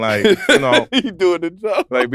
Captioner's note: laughs